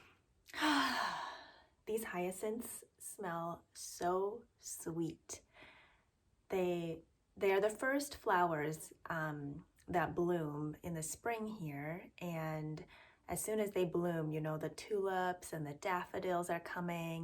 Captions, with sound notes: [exhale] These hyacinths smell so sweet. They are the first flowers that bloom in the spring here and as soon as they bloom, you know the tulips and the daffodils are coming